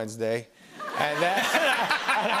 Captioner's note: laughter